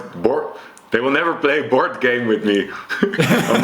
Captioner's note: chuckles; laughs